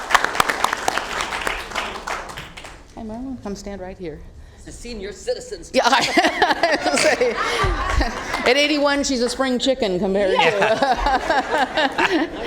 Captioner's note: applause